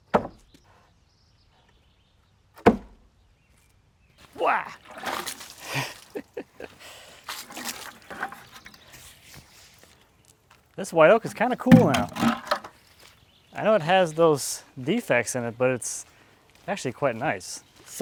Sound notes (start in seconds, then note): 0.3 wood falling into place; 4.3 water splashing; 5.6 laughing